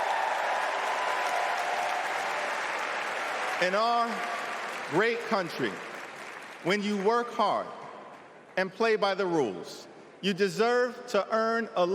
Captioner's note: cheering